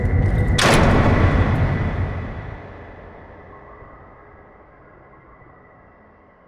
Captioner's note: eerie music; door slams